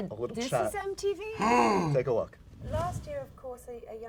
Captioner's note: gasps